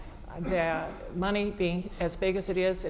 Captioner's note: cough